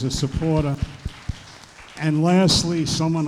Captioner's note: applause